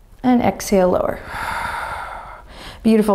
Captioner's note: exhaling deeply